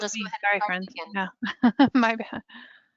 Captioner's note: laughing